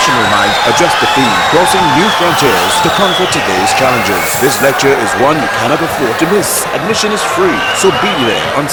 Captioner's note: wild applause and cheering for 22 seconds